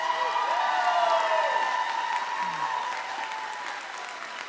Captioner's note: audience cheering